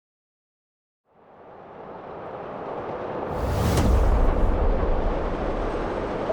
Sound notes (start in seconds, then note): 1.4 distant train rumbles; 3.2 title thunders